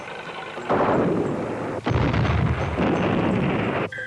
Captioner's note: artillery firing